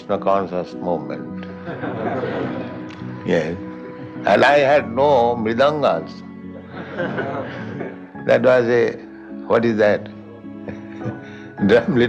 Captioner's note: laughter